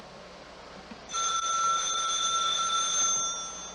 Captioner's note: ringing